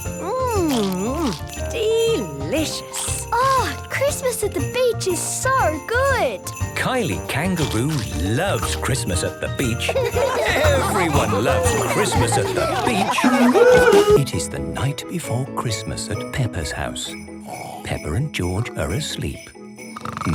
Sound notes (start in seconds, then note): 9.7 laughter; 13.2 surfing music